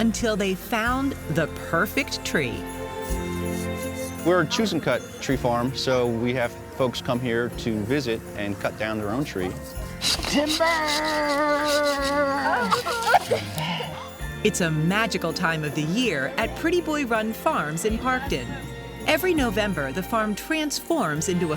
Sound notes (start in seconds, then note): 12.6 laughter